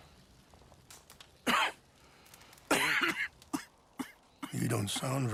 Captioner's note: Arthur enters the tent coughing